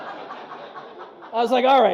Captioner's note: audience laughs